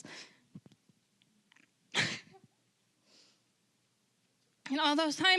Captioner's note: crying